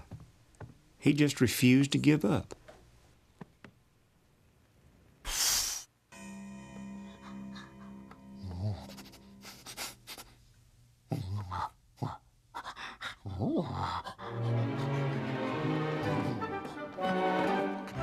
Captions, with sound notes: HE JUST REFUSED TO GIVE UP. [BLOWS] [SNIFFING] [PANTING]